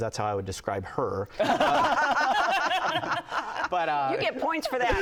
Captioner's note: laughs